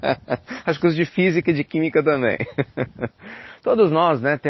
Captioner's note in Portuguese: risos; risos